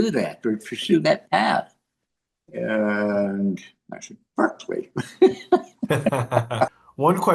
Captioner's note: laugh